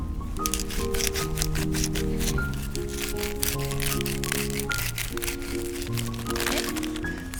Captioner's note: grind, grind